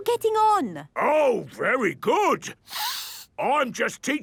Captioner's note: sniffs